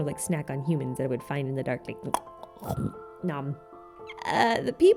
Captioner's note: nom